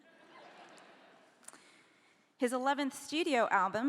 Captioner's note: laughing